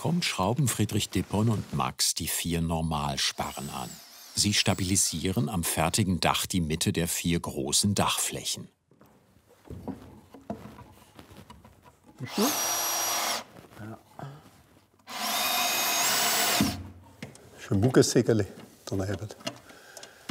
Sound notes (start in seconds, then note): 12.2 drill noise; 15.0 drilling